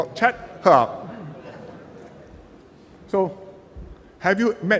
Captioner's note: laughter